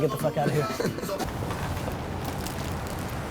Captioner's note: laughs